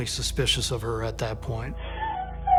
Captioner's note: crying